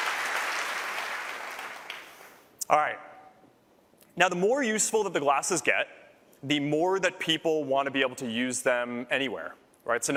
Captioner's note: applause